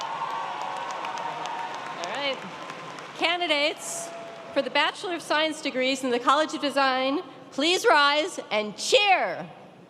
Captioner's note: applause